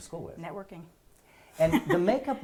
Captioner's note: laugh